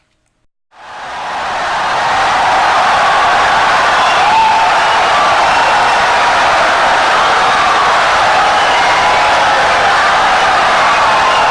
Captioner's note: wild applause and cheering for 17 seconds